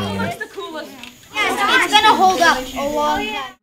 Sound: student chatter

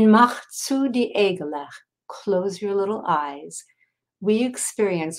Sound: speaking in foreign language

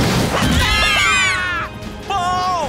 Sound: screaming

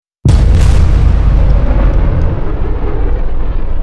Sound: blasting sound

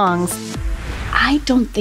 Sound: air whooshing

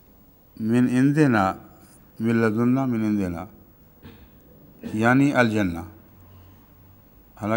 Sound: Arabic

